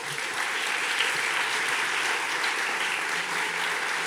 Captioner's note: audience clapping